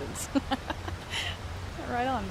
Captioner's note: laughs